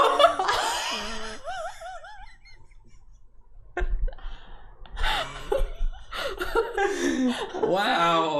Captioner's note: sounds of shock